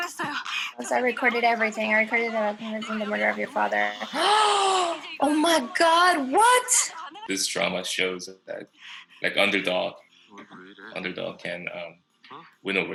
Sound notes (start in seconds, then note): 4.0 gasps